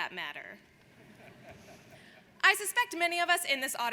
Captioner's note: audience laughs